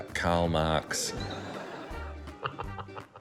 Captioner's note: laughs